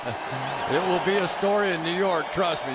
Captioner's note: laughs